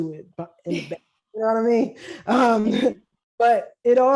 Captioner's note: laughs